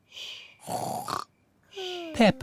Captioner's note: snores